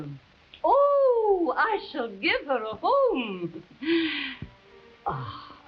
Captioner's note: chuckling